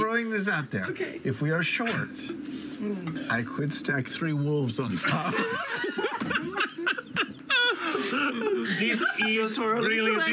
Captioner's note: laughter